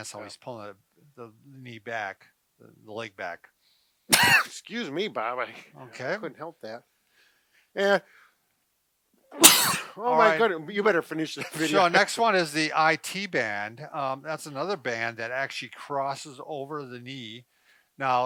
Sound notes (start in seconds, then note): 4.1 sneezes; 9.4 sneezes